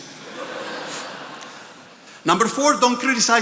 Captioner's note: attendees laughing